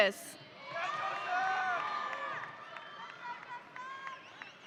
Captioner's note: audience cheering